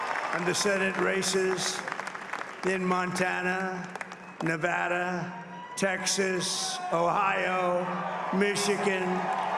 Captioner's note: cheering and applause